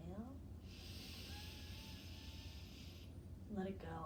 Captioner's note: breathing deeply